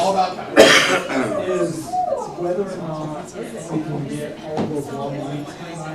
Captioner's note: cough and clears throat